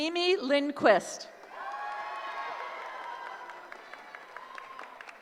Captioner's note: cheering